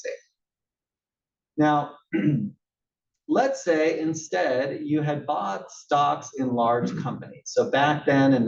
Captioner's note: cough